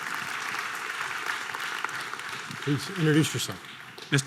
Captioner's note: audience applause